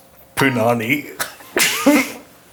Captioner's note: chuckles